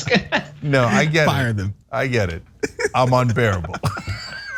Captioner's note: laugh